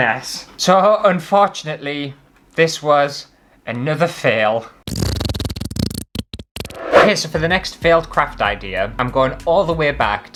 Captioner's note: fart Noises